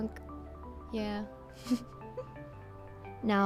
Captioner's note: laughs